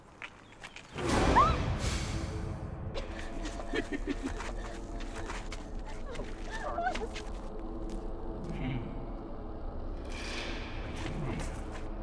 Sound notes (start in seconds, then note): 1.0 Jane yelping; 1.0 intense music; 4.8 sinister music; 8.7 leprechaun chuckling